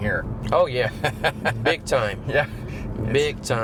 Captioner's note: laughing